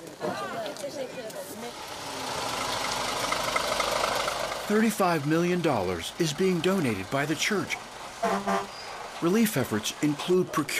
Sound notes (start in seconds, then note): 8.2 horn honks